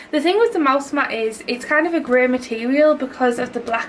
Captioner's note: none